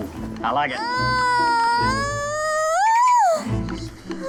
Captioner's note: screaming